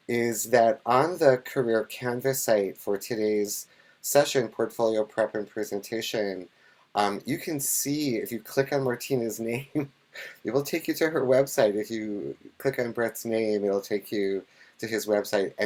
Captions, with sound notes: is that on the Career Canvas site for today's session Portfolio Prep and Presentation, you can see if you click on Martyna's name, (chuckles) it will take you to her website. If you click Brett's name, it'll take you to his website.